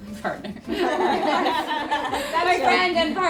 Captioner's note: laughter